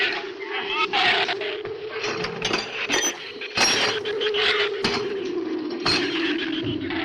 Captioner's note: shrews snarl; wind howls